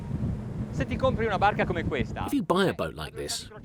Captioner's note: speaking foreign language